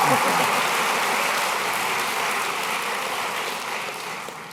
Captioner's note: applause